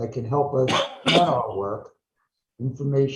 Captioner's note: coughs